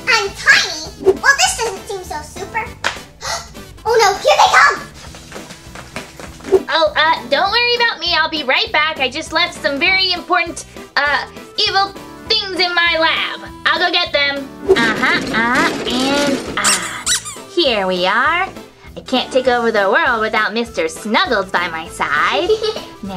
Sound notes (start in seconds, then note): 14.7 squeaking; 15.0 rustling